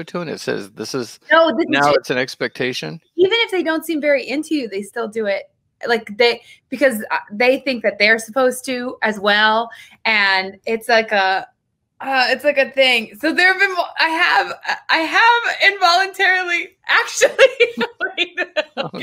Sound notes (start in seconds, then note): 15.9 speaks faintly; 17.2 laughs